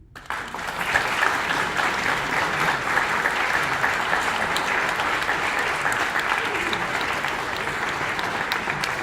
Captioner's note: applause